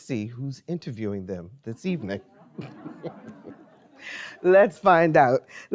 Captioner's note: chuckles